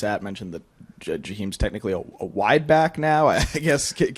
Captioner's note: laughs